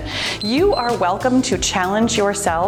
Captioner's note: timer beeps